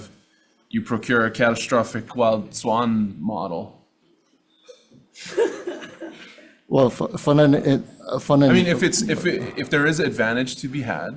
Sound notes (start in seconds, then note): 3.5 speaker laughing